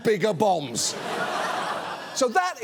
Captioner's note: audience laughs